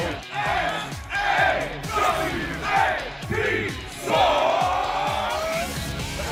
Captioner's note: fans chanting